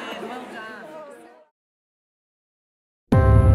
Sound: panellists murmuring; gentle music ends

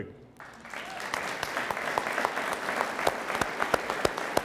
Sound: audience applauds

